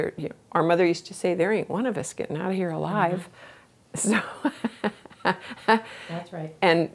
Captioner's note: laughs